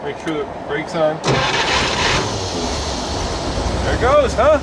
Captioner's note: loud engine rev